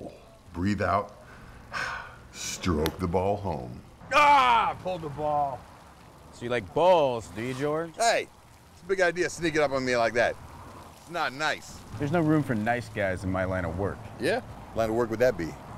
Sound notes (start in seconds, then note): 4.0 shouts